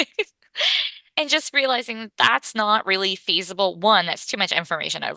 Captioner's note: laughs